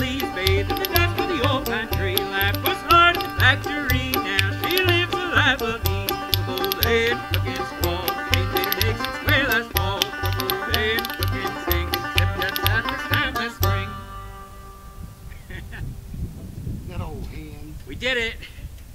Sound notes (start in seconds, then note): 15.3 chuckles